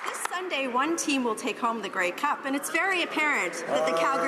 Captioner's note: some Applause